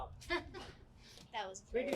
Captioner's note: laughs